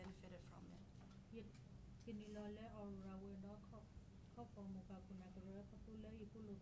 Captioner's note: speaking in foreign language